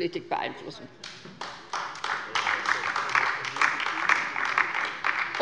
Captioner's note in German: Beifall bei der LINKEN